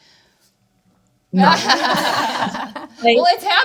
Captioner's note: panelists laughing